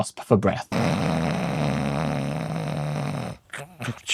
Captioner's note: snoring